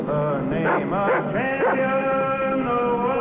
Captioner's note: dog barking